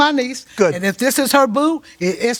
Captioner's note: laughs